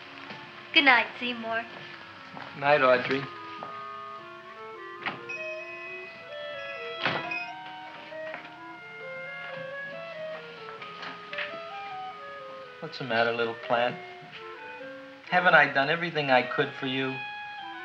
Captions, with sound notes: Goodnight, Seymour. - Night, Audrey. (shop bell chimes) (mysterious music) What's the matter little plant? Haven't I done everything I could for you?